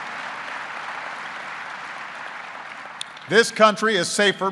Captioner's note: applause